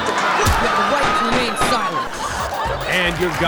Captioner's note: gunfire